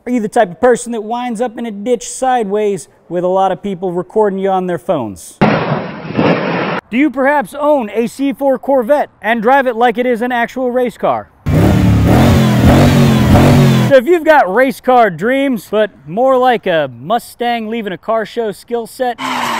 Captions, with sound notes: Are you the type of person that winds up in a ditch sideways with a lot of people recording you on their phones? Do you perhaps own a C4 Corvette and drive it like it is an actual racecar? (engine revs) So if you've got racecar dreams, but more like a Mustang leaving a car show skill set,